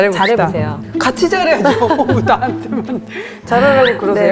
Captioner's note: chuckels